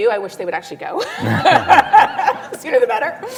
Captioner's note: laughter